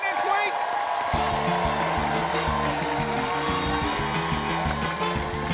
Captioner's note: applause